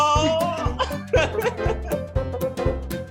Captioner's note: laughs